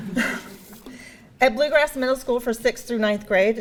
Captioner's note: audience laughing